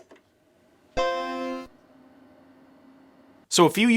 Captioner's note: computer startup sound